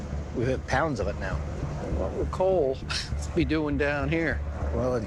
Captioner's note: laughs